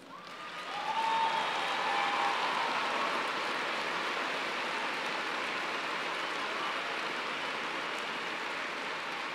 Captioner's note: cheers and applause